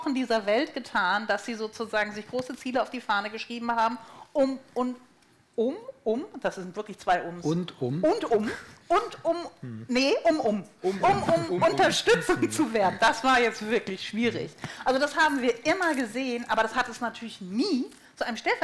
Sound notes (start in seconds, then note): 11.0 laughter